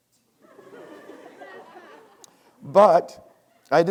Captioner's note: students laughing